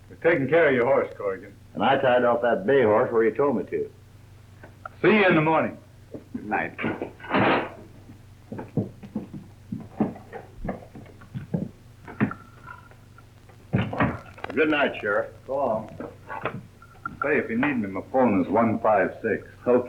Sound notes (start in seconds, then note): 7.3 crash